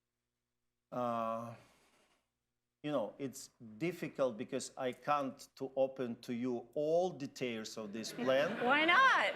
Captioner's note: laughter